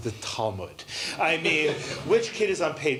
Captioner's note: laughter